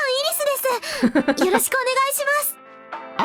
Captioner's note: chuckles